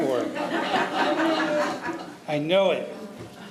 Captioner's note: audience laughing